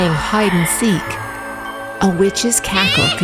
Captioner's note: ghostly whispers